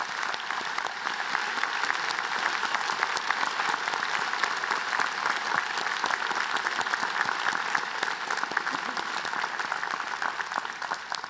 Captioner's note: applause